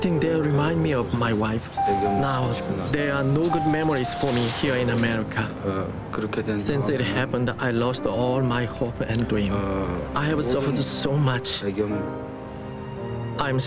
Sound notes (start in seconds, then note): 5.9 speaking korean